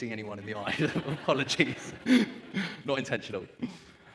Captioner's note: audience laughs